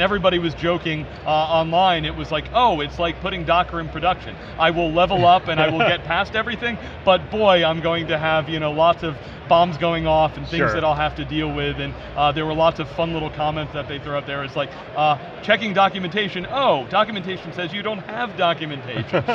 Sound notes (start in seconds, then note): 5.1 laughing